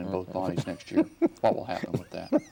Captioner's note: laughing